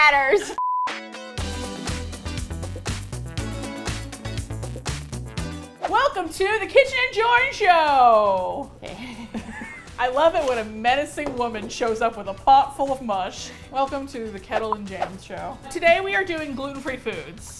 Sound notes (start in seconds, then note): 0.1 upbeat music; 8.8 chuckles